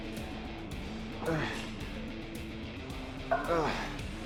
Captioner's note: upbeat rock music continues; Sheamus grunting